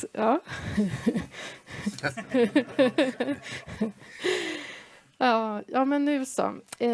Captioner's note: laugh